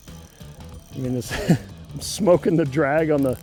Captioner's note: laughs